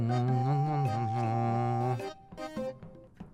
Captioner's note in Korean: 콧노래